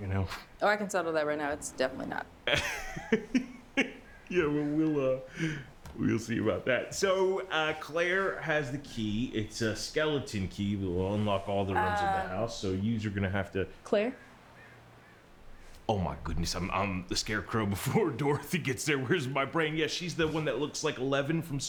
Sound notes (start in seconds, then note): 2.4 Mr. Machen laughs